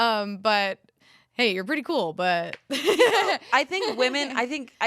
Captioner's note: laughs